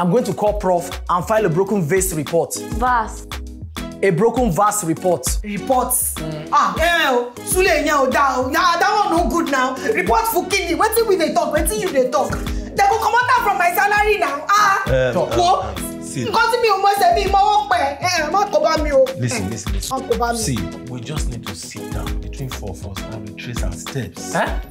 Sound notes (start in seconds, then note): 16.9 Shalewa laments in Yoruba